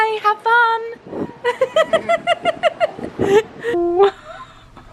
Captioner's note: laughs